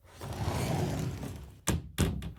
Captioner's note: door open